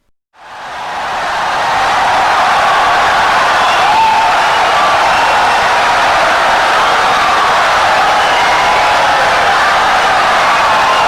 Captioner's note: wild applause and cheering for 17 seconds